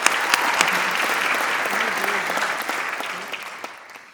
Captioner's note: applause